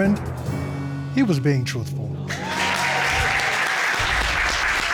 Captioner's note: audience applauds, cheers